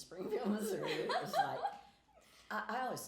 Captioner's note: laughing